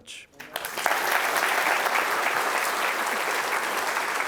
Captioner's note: applause